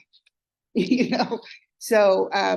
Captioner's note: laughs